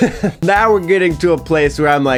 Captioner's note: chuckling